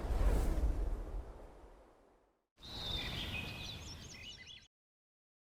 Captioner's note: birds chirping